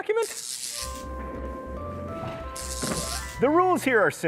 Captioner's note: zapping; whimsical music